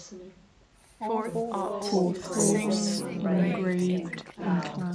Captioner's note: many voices